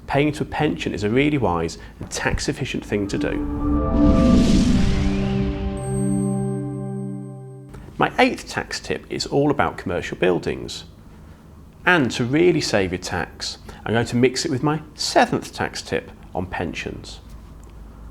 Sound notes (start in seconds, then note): 2.9 gentle music; 3.0 graphics whooshing